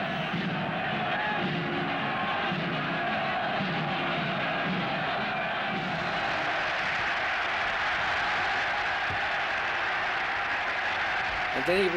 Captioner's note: applause